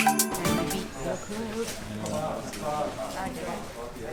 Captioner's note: people chatting